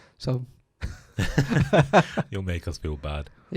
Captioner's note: laughing